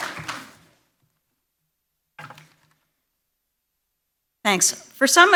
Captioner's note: applause